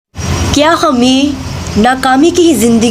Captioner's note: Urdu/Hindi